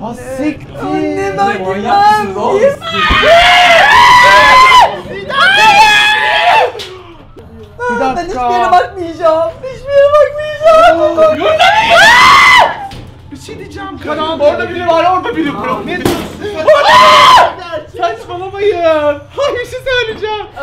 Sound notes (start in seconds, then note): 2.8 screams; 11.5 screams; 16.6 screams